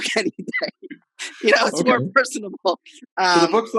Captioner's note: laughing